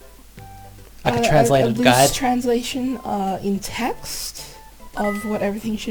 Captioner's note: stutters